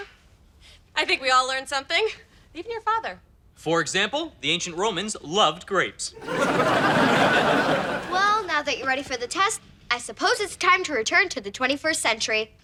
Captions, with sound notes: - I think we all learned something. Even your father. - For example, the ancient Romans loved grapes. (audience laughing) - Well, now that you're ready for the test, I suppose it's time to return to the 21st century.